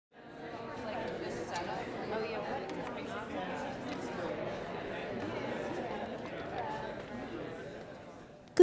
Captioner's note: crowd conversation